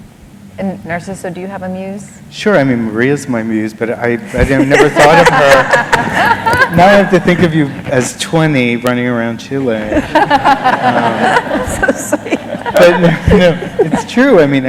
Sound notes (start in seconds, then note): 4.3 laughter; 9.8 laughter